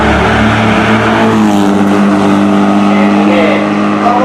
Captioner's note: ROAR of the 590